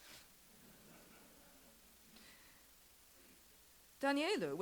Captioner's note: audience chuckles